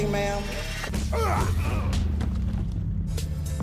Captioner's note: fighting grunts